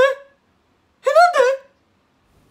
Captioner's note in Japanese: 高い声で